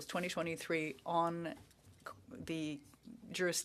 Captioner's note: speaking French